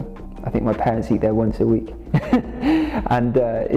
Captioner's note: laughs